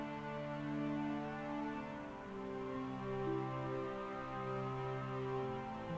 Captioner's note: dramatic music; police sirens alarming